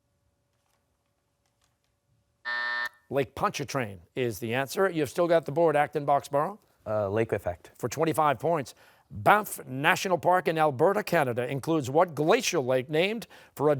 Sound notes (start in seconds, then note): 2.4 buzzer